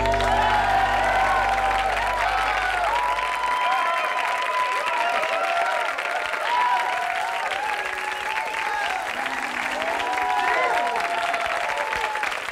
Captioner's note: applause, cheers